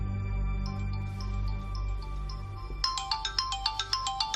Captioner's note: phone ringing